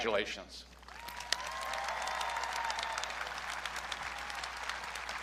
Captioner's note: audience cheering